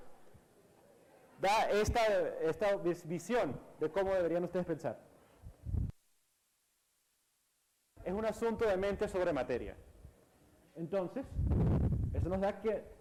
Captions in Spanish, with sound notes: da esta, eh, esta visión, de cómo deberían ustedes pensar: [Micrófono cruje] Es un asunto de mente sobre materia Entonces, eso nos da que, [Micrófono cruje]